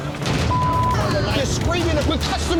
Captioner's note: beep